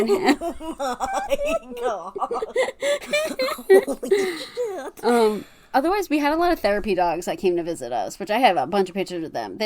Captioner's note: laughing